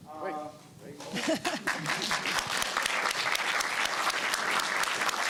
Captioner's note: applause